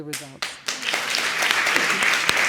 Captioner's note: audience applauds